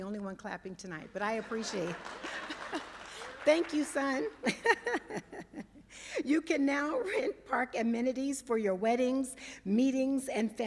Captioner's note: laughter